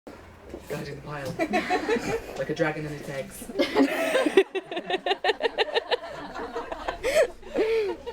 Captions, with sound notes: - Like a dragon guarding its eggs. - [Everyone laughs]